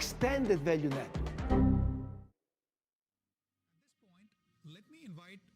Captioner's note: computer chimes